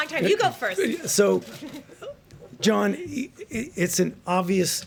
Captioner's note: laughs